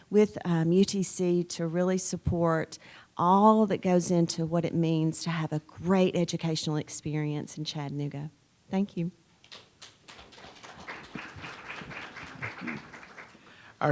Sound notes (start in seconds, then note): 9.4 audience applauds